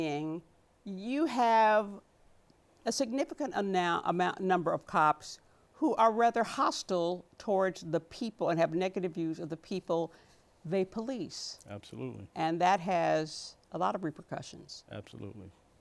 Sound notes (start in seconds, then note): none